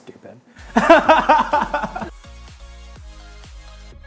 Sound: laughing

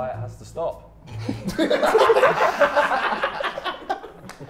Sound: everyone laughs

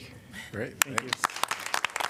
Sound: applause

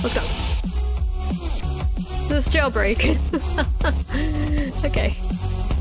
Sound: laughs

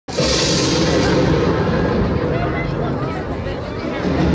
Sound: thunder Cracks

